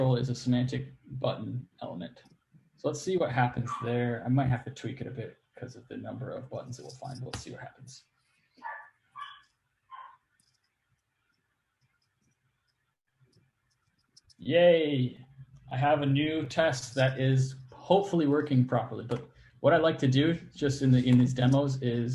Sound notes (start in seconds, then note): 8.6 barks